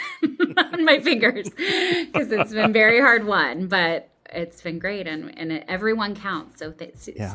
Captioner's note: laugh